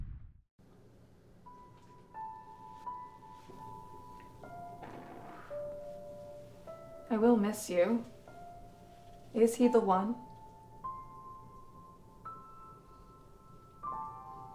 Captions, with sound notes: (matchstick blown) - I will miss you. Is he the one?